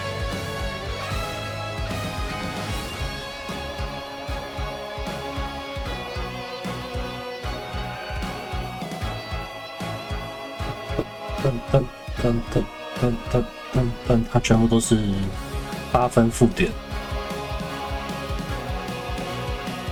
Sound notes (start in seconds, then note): 10.8 humming